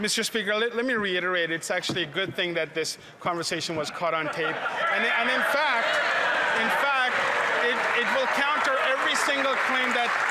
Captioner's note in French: voix de l'interprète